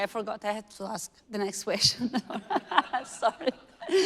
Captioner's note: all laughing